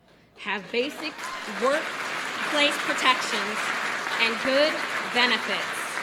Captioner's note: applause